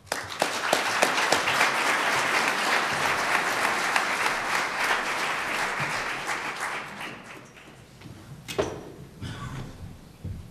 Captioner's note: applause